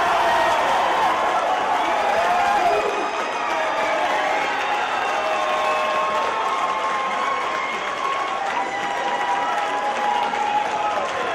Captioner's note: applause